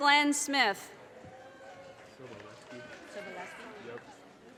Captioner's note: audience cheers and applause